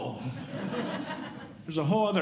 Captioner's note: audience Laughing